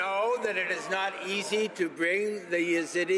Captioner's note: some Applause